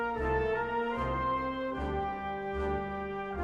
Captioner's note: none